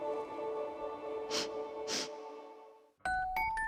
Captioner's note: sniffing